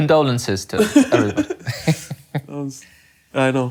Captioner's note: laughing